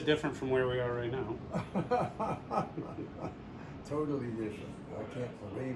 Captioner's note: laughter